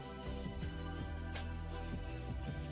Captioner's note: none